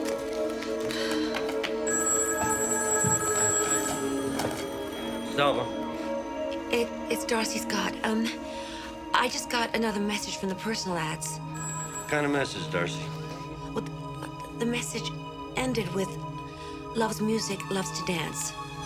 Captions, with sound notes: (phone ringing) - D'Salva. - It's Darcy Scott, I just got another message from the personal ads. - What kind of message, Darcy? - The message ended with, loves music, loves to dance.